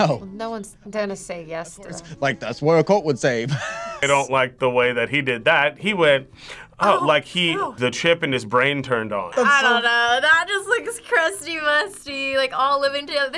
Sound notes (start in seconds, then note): 3.5 laughs